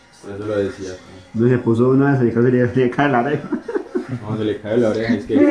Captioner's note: haha